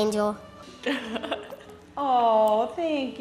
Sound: laughs

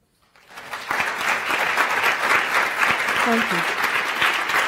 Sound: audience applause

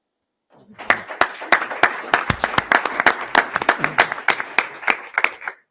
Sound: audience applauding

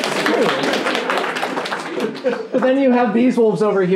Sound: laughing and clapping

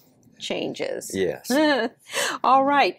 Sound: chuckles

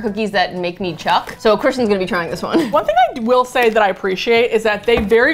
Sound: chuckles

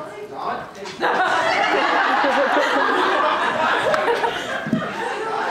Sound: audience laughter, vague ad-libbing

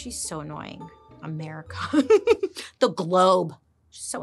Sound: laughs

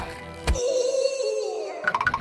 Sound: screams in pain

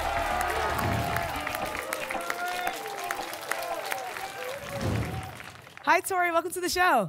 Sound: applause and cheering

